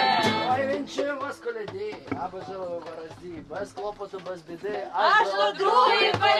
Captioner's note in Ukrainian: декламує